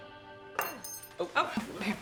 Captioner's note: spoon falls